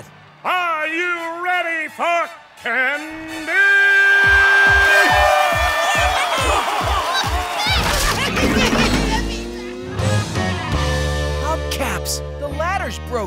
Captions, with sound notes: Are you ready for candy? [cheering] [giggling] Hubcaps, the ladder's broken!